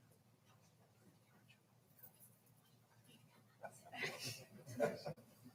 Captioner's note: people chattering quietly